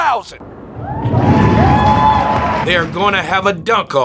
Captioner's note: spectators applauding